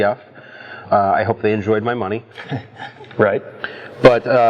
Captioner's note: laughs